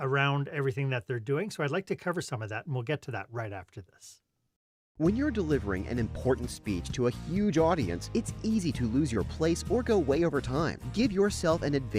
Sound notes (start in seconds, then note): 4.8 voiceover